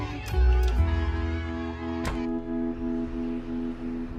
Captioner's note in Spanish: Algarabía de los fans